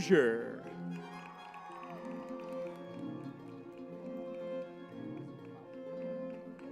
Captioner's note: lively music; crowd cheering